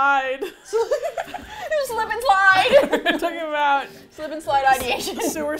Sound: laughs

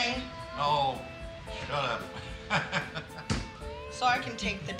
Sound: laughing

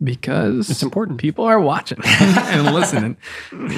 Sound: Fr. Angelus laughs

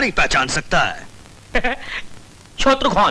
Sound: chuckles

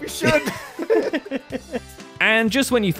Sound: both laughs

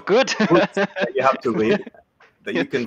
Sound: laughs

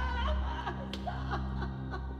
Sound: Mom sobbing

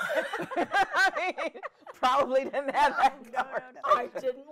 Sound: women laughing

